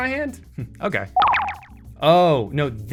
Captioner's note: chiming sound